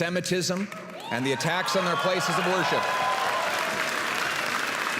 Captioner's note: applause